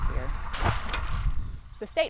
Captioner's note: net splash